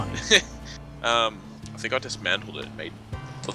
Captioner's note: laughs